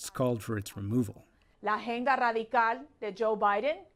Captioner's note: speaking spanish